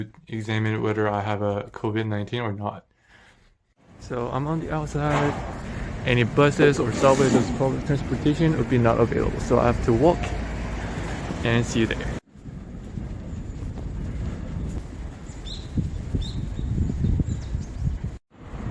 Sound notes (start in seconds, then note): 15.2 birds chirping